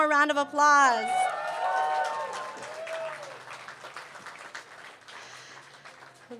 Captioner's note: applause